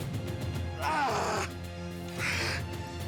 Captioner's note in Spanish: quejidos